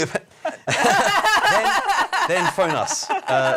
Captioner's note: laughing